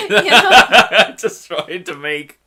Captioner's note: they laugh